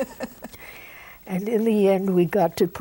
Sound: laughs

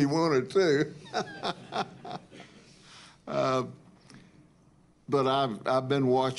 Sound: laughter

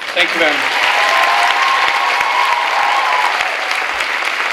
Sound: clapping

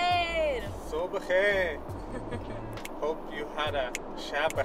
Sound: به زبان خارجی صحبت می کند

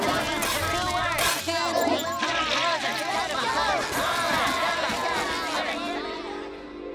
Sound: chattering

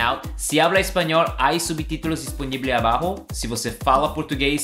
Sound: speaking Spanish; speaking Portuguese

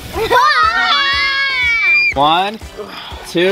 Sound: kids shouting

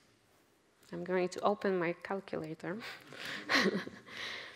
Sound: laughs

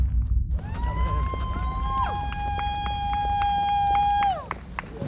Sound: cheering and clapping

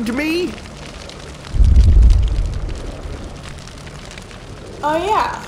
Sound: fire crackling

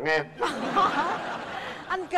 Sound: laughters

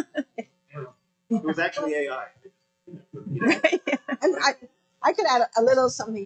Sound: laughs

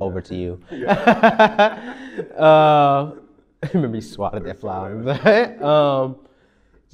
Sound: laughs

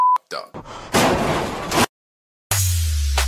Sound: loud crash

